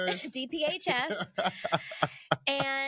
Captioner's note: laughing